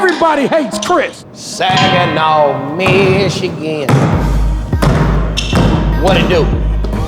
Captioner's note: bell ringing